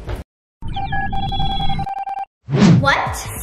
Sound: signal beeps

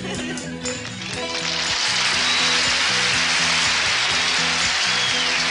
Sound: audience clapping

